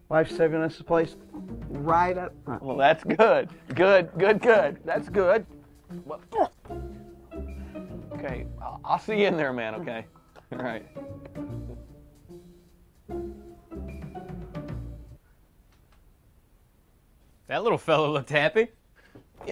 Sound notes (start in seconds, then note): 6.2 grunts